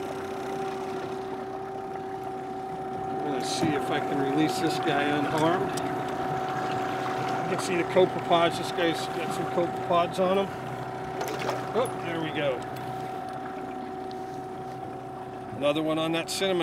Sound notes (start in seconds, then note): 10.8 fish splashing